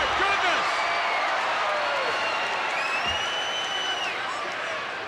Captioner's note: crowd cheers